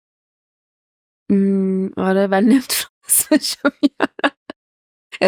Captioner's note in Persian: خنده